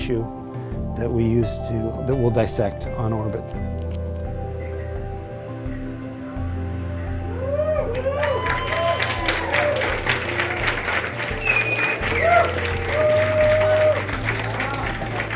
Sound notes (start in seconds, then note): 3.8 crowd cheers; 3.8 gentle music